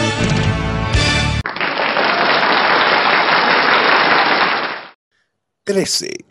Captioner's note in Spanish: Aplauso